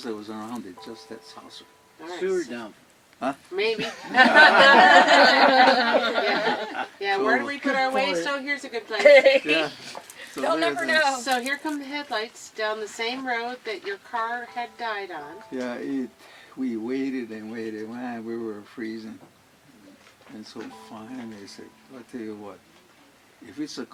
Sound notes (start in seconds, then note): 3.7 laughter